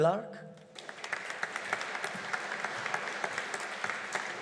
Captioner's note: audience applauding